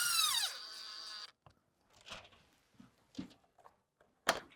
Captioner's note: drilling sounds